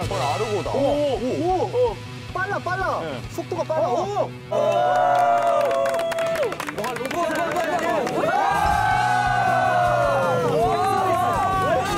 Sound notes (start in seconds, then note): 4.5 A round of applause